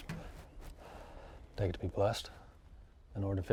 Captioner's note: exhales